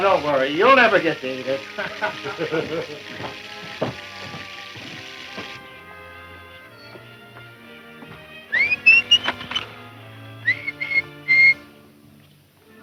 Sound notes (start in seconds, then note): 1.6 laughter; 8.4 whistling